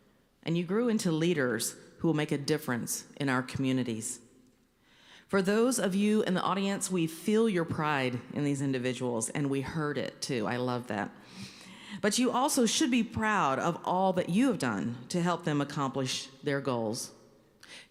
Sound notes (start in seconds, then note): none